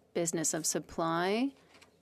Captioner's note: speaking French